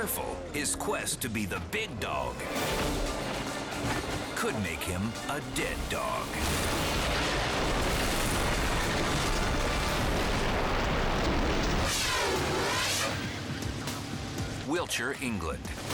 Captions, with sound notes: his quest to be the Big Dawg could make him a dead dog. (snowmobile crashing) (dramatic music) Wilshire, England.